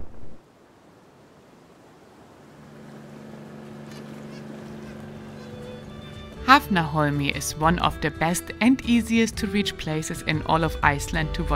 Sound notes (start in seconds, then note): 3.1 wind blowing; 4.3 tranquil music